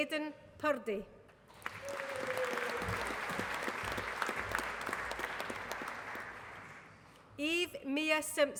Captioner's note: applause